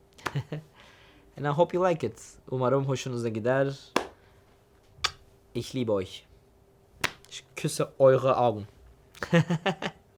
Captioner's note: mwah